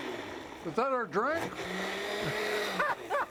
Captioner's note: blender whirring; laughing